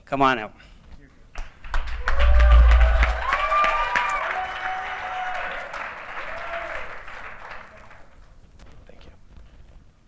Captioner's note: applause